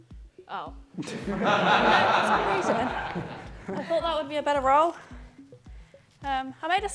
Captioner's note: laughter